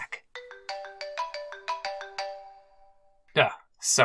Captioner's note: cell phone rings